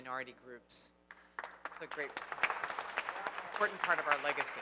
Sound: audience applauding

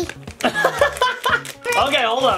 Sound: laughs

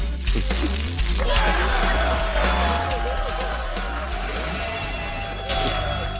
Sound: cheering

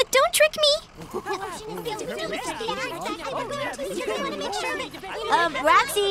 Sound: group chattering

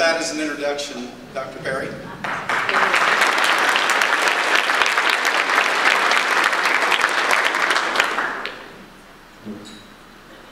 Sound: audience applause

